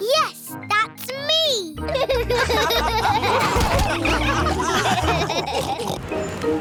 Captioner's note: all laughing